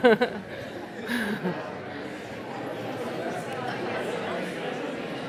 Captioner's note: audience chattering